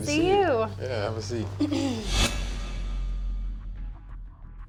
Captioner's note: clears throat